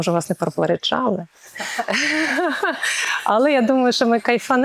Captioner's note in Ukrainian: сміх